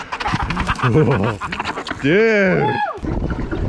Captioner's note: laughs